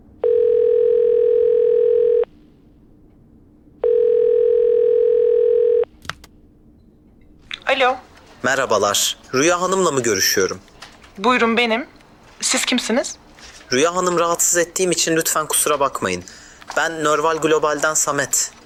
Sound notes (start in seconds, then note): 5.9 phone connects